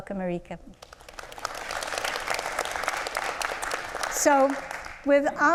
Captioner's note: audience applauds